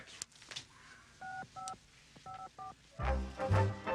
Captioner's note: beeping